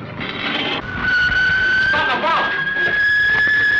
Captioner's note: whistling